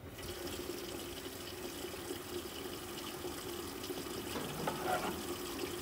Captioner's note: water facet running